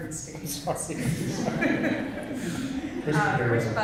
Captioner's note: laughter